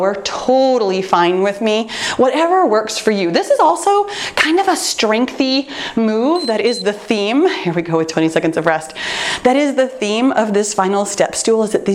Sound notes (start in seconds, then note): 6.3 timer beeps